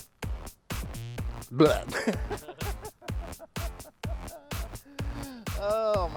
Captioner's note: laughing